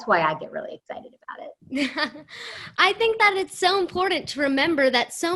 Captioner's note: laughter